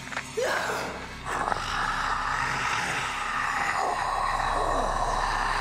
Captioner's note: mummy snarling